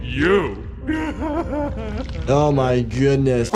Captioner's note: Doey laughs